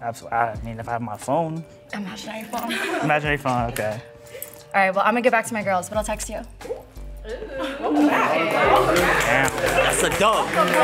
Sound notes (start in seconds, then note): 8.9 clapping